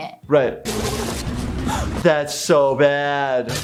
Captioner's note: flailing water